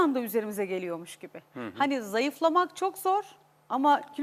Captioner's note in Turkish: boğazını temizler